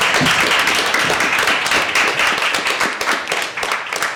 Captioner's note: crowd stomping their feet; applause